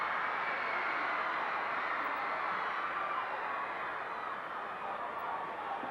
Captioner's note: audience cheering continues